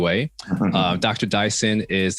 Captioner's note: Michael laughs